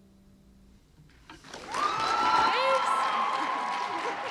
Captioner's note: applause